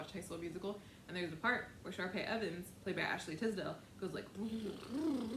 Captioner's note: blows raspberry